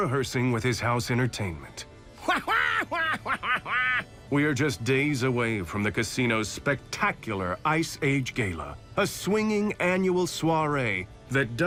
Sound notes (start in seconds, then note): 2.2 quacking laughter